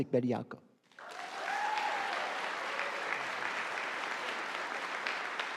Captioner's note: audience applauding